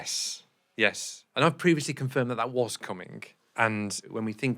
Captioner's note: none